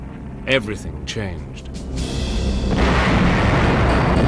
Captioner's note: explosions rumbling